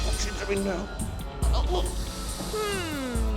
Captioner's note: Howie groans